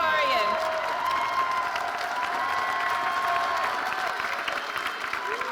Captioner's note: audience cheering and applauding